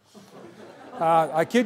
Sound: laughter

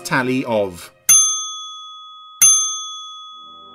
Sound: bell dings

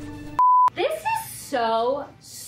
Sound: screen beep

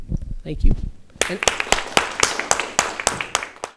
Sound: audience applauding

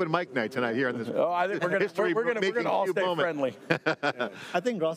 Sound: group speaking together

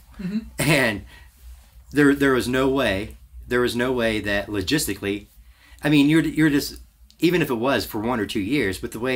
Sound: laughs to self

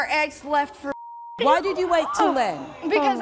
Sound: audience gasps

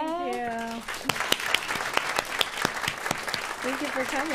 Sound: applause

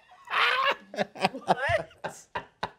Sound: laughing

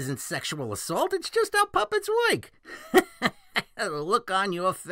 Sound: laughs

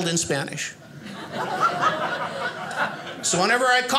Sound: audience laughing

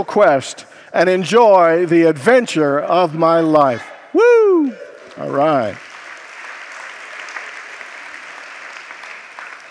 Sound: congregants applaud

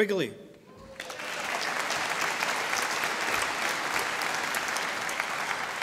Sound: audience applauding

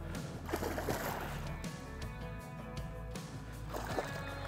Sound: water splashing

